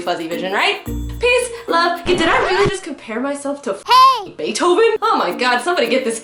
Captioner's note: record scratch sound effect